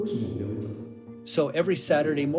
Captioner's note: soundbite of archived recording; speaking Chinese